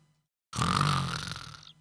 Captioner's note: snores